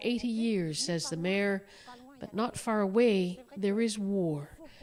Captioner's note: speaking French